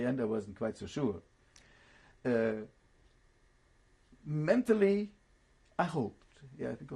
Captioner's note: pauses for 3 seconds